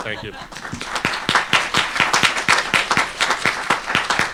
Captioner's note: applause